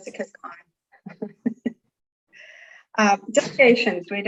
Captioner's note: laughs